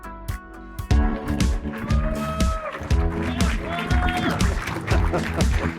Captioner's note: audience applauding